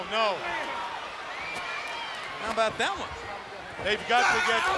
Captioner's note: crowd cheering